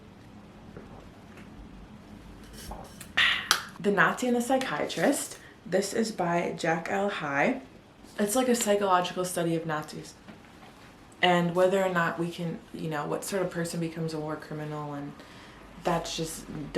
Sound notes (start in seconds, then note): 3.1 aaah